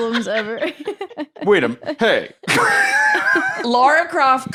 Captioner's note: laughs